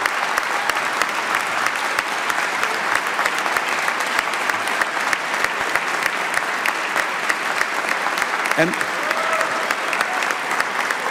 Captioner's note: applause